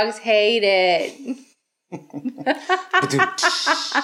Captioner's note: laughs